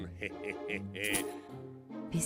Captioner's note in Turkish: Gülme sesi